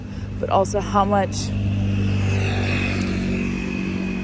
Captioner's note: vehicle passes